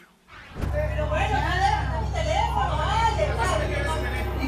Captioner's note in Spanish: gritan